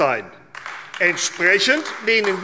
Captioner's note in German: Beifall AfD